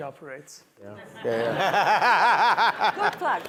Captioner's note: panel and audience laughs